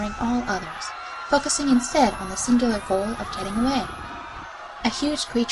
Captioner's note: panicked growd continues